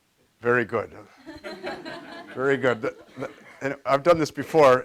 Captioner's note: audience laughs